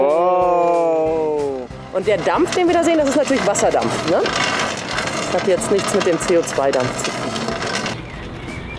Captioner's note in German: man hört lautest Blubbern und Scheppern